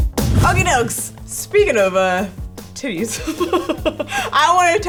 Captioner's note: laughing